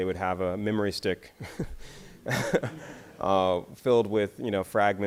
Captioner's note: laughs